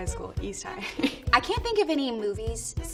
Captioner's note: giggles